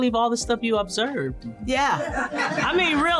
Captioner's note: laughter